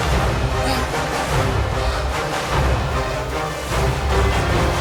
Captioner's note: Sanford grunting